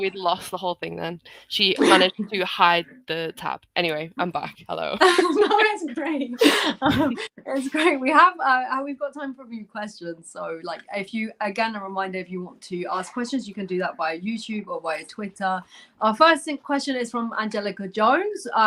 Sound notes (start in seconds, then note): 6.0 laughter